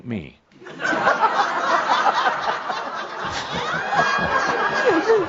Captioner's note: laughter